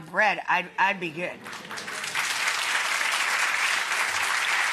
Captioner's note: audience clapping